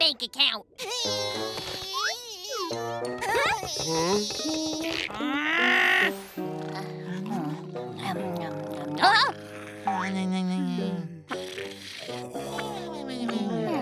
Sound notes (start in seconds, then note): 4.9 growling; 6.3 snoring; 11.3 snoring